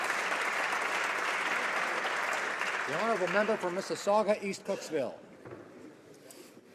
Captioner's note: applause